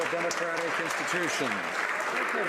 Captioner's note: some Applause